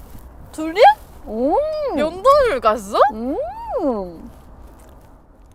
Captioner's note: aww